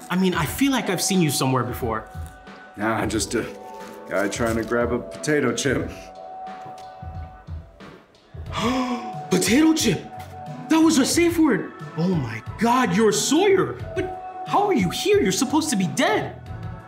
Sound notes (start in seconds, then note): 8.4 gasps